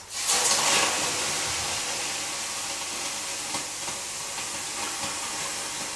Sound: pouring water on heated stones

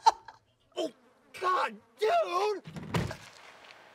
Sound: laughs; flies buzzing; door slams

